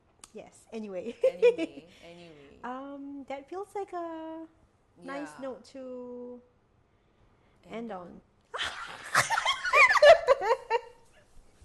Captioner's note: laughter